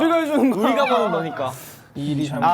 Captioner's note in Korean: 끼잉